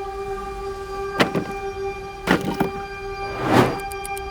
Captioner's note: wood clattering; dramatic whooshing